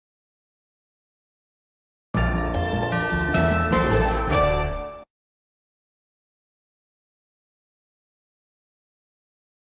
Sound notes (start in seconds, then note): 2.2 upbeat orchestral music; 5.4 silence